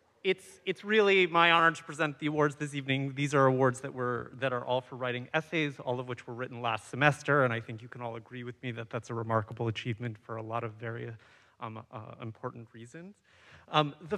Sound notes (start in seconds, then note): none